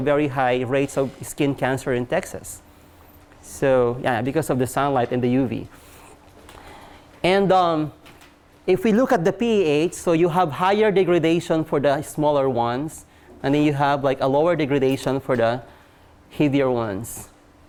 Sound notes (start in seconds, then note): none